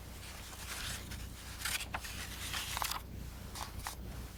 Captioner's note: papers rustling